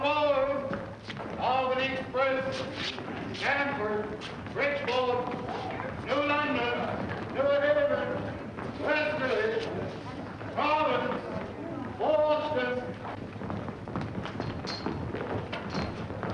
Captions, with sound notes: [man over P.A.] All aboard. Albany Express to Stamford, Bridgeport, New London, New Haven, West New Haven, Croton, Boston.